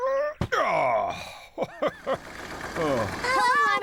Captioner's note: chuckling